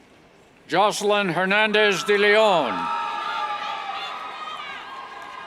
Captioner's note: cheers